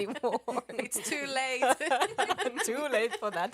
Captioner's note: laughter